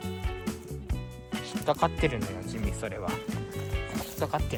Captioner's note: laughs